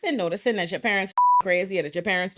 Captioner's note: beep